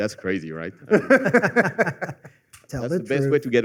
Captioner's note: laughter